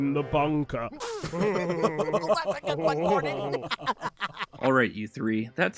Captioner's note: they laugh